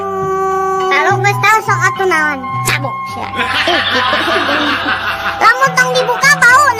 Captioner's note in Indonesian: tertawa